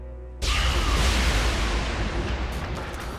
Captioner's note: explosion